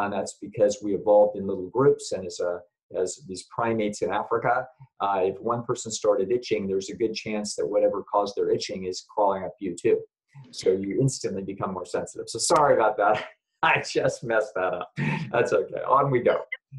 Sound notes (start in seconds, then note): 13.0 laughs